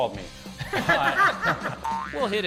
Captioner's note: group laughing